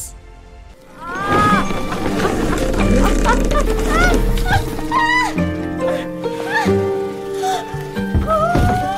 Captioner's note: woman quavering